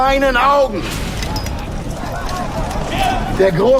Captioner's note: indistinct chatter